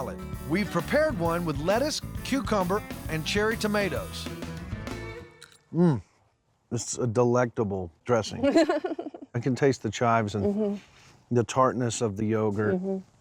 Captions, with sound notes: WE'VE PREPARED ONE WITH LETTUCE, CUCUMBER AND CHERRY TOMATOES. M'M. IT'S A DELECTABLE DRESSING. [GIGGLING] I CAN TASTE THE CHIVES, THE TARTNESS OF THE YOGURT.